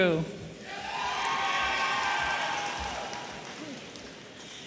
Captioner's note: audience cheering